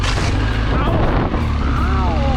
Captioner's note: motorbike revving